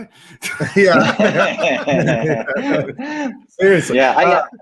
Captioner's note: laughing